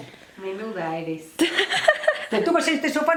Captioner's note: laughs